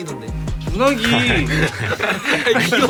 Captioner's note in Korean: 웃음